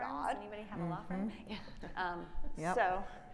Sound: woman chattering

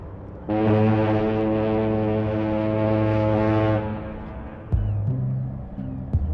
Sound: birds chirping; ship horn blares

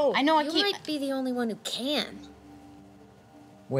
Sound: none

